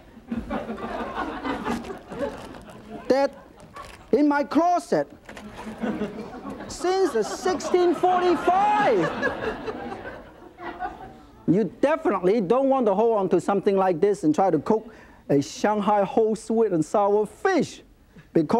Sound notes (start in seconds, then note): 6.6 laughs; 8.9 audience laughs